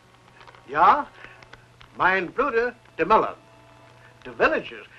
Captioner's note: Hans speaking German